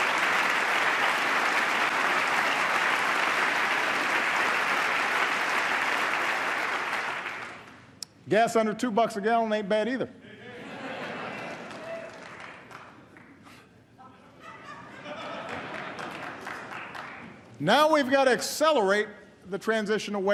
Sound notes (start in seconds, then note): 0.0 applause; 14.2 laughter